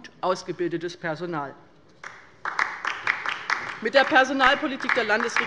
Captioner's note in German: Beifall bei der LINKEN